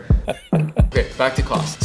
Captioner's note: laughing